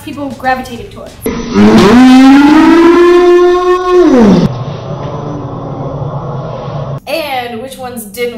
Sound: imitation of chainsaw roar

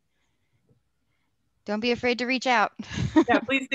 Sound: laughter

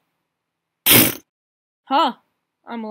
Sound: epic the cool death sfx

